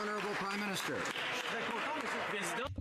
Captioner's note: cheering and Applause